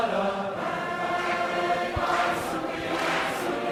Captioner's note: people clapping rhythmically